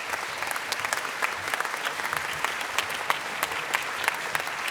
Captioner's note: applause